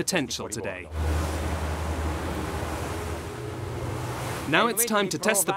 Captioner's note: boat engine